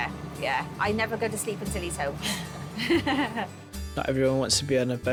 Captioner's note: chuckles